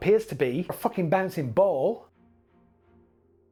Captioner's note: flipping